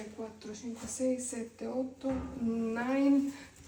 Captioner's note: speaking spanish